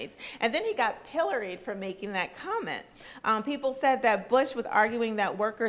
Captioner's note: none